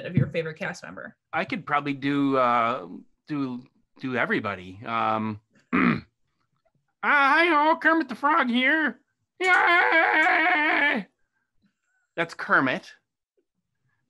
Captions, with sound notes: of your favorite cast member? - I could probably do everybody. (throat clearing) Hi ho, Kermit the Frog here. (Scooter yells) That's Kermit.